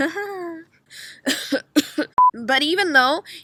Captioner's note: cOugH coUGh